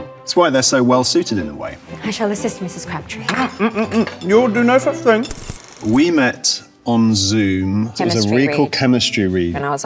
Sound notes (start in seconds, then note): 3.3 dishes clatter; 5.3 film reel clicks